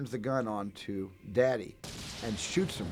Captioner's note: gunshot echoing